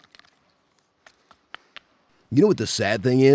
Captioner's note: tapping pipe